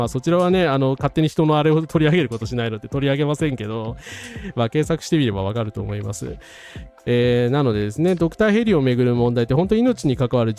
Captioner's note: sound of gasping